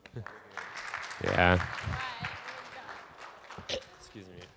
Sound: audience applauding

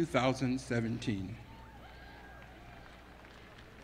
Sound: applause

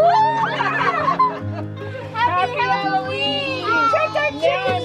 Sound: laughing

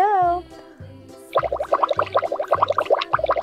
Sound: bubbling

